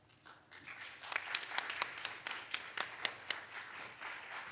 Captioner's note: audience claps